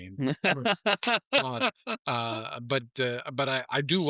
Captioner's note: laughing